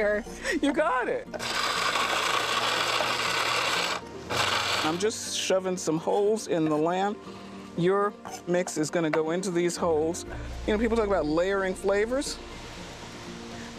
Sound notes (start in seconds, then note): 0.3 chuckling; 1.3 grinding